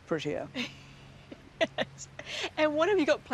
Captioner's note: laughs